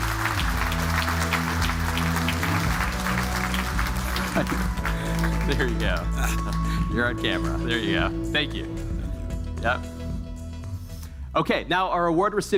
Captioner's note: applause